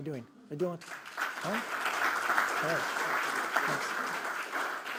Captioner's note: audience applause